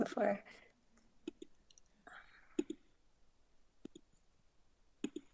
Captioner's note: mouse button clicking